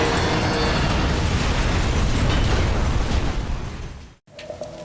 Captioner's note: plane exploding